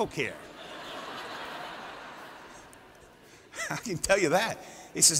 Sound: laughter

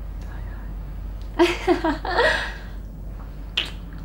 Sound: emma joyfully giggles

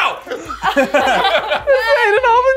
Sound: more laughter

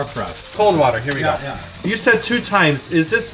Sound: none

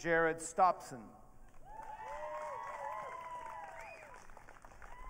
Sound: audience cheering

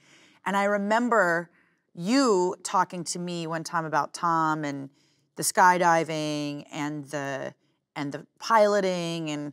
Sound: none

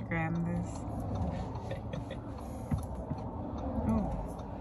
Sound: laughs

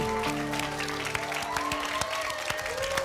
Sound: applause and cheering

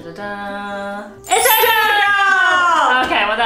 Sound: chimes tinkling

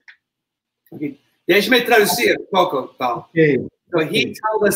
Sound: speaks portuguese

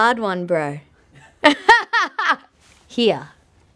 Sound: laughing

